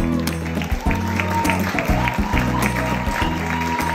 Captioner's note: cheering, applause